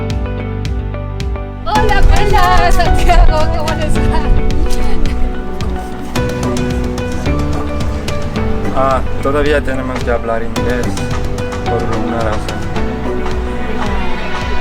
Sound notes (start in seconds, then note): 9.3 in Spanish